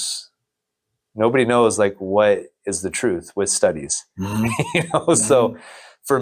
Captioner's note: laughs